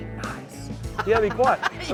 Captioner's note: laughing